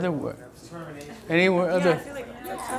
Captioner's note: voiceover